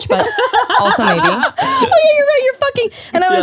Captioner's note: laughs